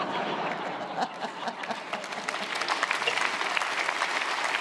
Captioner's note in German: Lachen, Applaus